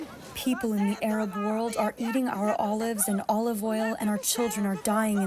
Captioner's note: through translator